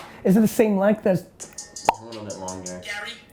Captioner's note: popping mouth